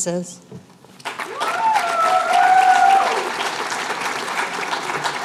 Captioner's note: applause